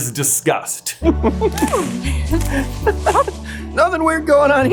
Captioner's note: giggles